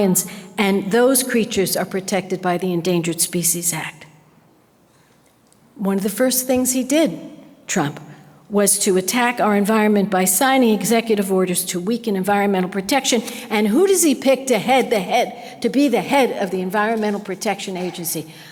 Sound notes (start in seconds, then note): none